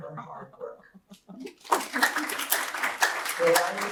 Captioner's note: applause